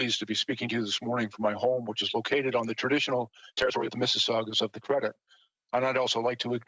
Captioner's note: speaking French